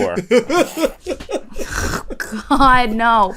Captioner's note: laughter